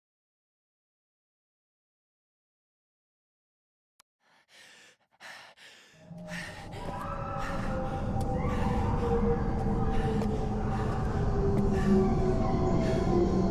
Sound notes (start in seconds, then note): 6.1 panting; 8.7 faint screaming